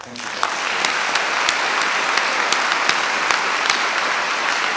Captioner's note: audience applauding